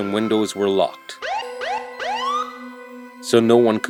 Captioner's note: police Siren